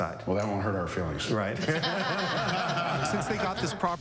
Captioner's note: laughter